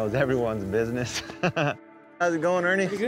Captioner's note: laughs